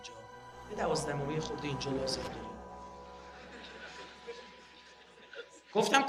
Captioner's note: people laughing